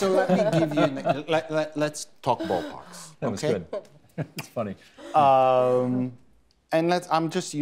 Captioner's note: laughter